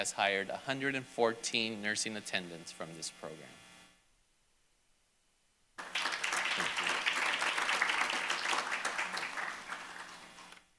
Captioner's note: applause